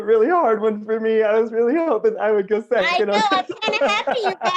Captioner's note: laughter